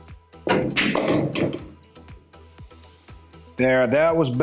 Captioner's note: pool balls clacking and thudding